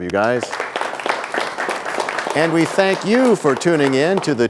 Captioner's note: applause